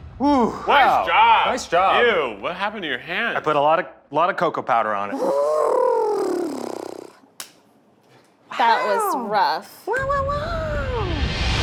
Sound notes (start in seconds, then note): 5.1 blows raspberry; 7.3 hands smack